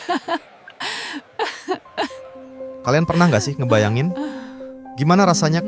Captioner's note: laughs